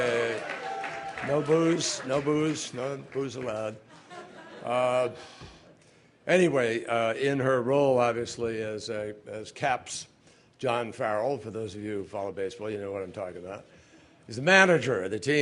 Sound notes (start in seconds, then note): 0.0 applause; 3.8 laughter